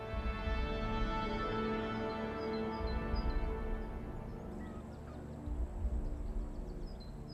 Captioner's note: gentle tense music; birds chirping